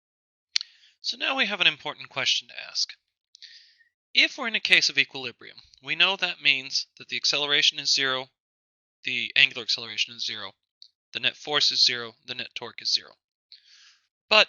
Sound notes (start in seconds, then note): 1.0 voiceover